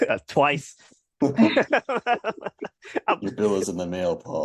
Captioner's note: laughter